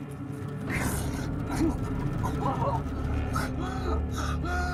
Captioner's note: Rudy splutters